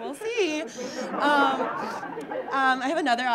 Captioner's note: audience laughing